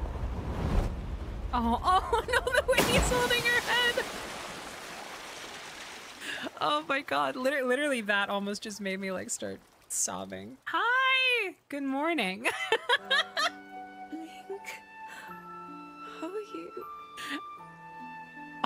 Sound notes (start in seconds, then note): 12.4 laughter